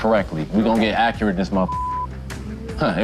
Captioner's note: beep